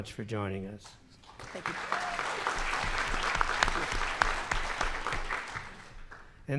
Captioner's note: audience applauds